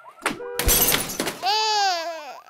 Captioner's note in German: Klirren; Babyweinen